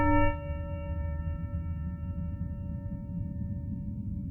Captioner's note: low humming